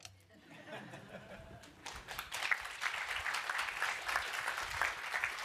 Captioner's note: applause